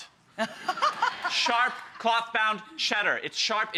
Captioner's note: audience laughing